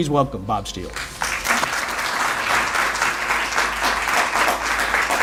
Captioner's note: audience applauds